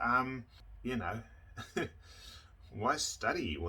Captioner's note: chuckles